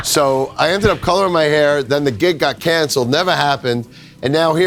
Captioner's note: laughs